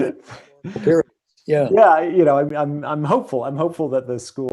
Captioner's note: laughing